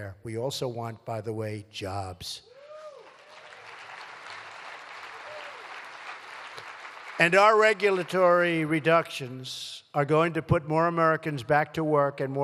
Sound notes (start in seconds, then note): 2.6 applause